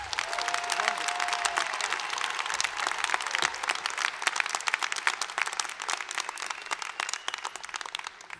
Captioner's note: cheering and applause